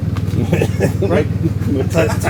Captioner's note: person laughs